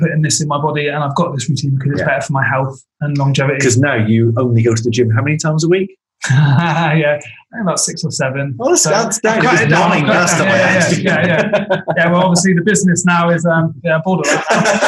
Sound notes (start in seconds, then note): 9.1 laughs; 9.2 group laughing